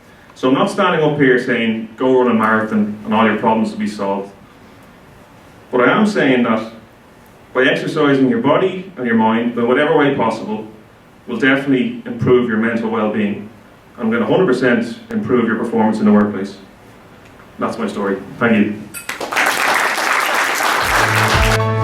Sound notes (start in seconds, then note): 19.0 clapping